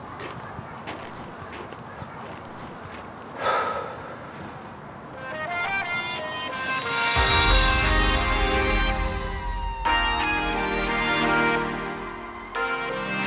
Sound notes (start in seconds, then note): 7.0 fire engine sirens; 10.6 upbeat music